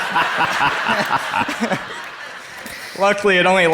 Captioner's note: Dr. Dispenza laughs loudly; crowd laughs